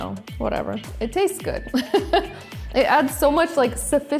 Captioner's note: laughs